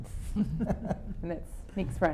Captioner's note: laughing